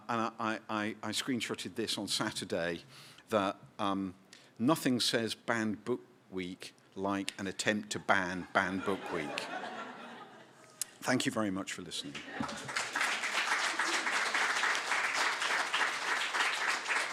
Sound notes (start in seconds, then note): 8.6 laughter; 12.1 applause